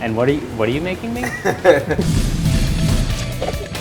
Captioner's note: laughs; bright music